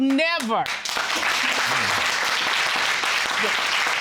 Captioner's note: audience applauding